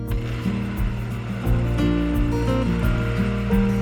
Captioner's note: blender buzzing